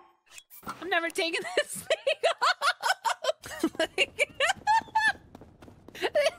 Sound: laughing

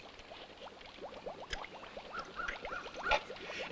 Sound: water bubbling

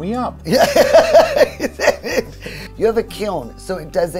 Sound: laughing

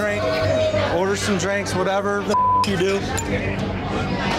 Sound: beep

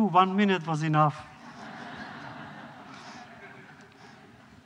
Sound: laughter

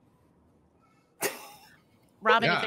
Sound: laughs

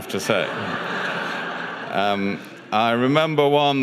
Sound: audience laughs

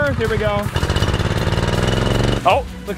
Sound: engine rattles

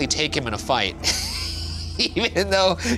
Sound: laughs

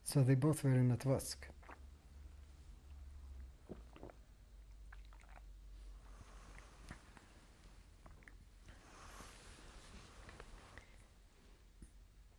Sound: drinks

